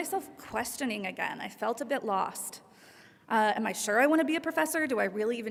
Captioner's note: none